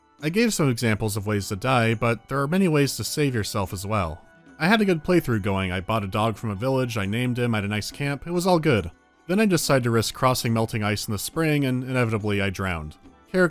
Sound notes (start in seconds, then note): none